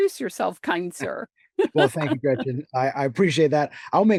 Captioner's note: laughs